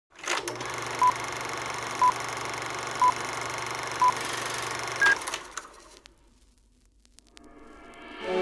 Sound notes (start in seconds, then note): 0.2 film whirring and clicking; 1.2 numbers beeping